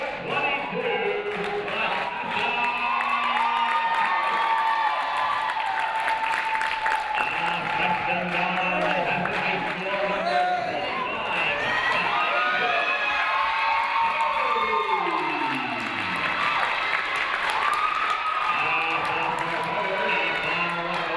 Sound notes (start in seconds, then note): 5.2 audience cheering; 8.5 announcer muffled by crowd cheering